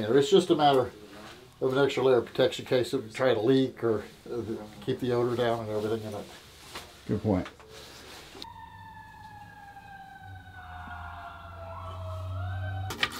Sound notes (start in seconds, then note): 8.4 sirens